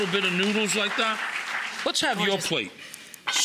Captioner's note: audience applauding